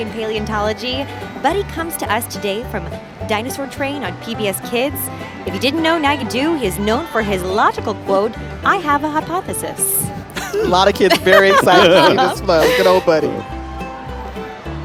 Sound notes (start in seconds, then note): 7.0 laughing